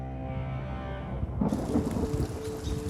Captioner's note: thunder and rain; birds chirping